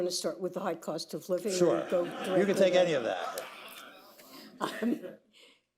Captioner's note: laughter